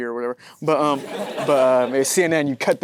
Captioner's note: audience laughing